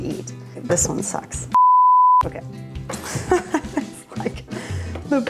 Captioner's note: laughs